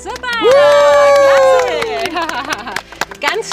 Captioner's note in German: Jubel, Applaus